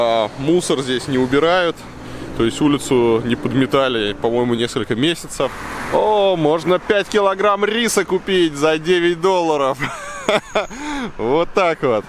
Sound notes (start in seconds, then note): 9.7 laughter